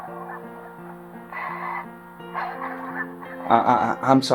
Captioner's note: Leota begins sobbing